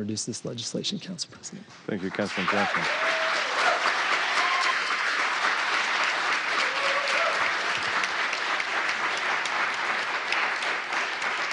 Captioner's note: applause